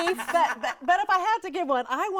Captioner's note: hosts laugh